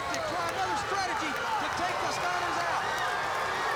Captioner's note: crowd cheering